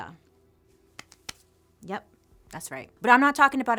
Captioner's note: claps